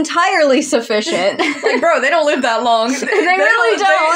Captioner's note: laugh